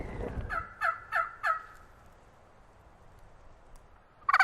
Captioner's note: turkey call